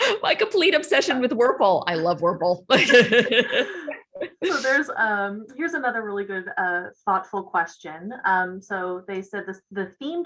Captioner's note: laughs